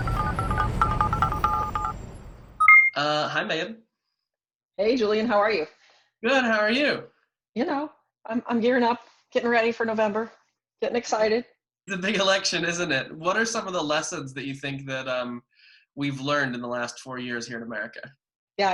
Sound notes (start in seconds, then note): 0.0 call ringing; 2.4 answering beep